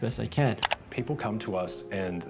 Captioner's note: mouse clicking